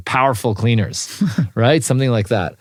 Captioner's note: laugh